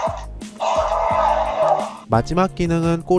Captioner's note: roars